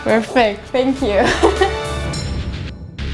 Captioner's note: laugh